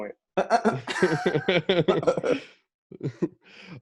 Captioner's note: collective laughter